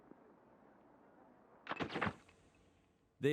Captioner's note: flashbulbs popping